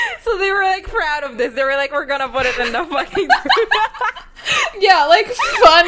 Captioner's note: laughs; both laughing